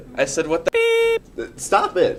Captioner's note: beep